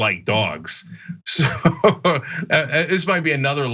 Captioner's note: laugh